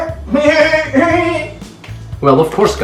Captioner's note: bleat